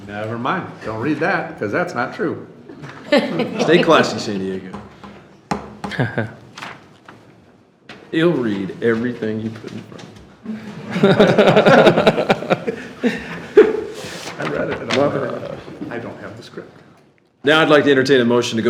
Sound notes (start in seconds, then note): 10.4 all laughing